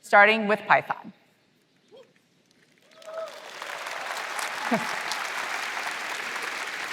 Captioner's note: applause